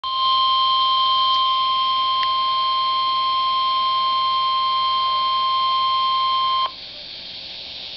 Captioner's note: 1050 Hz tone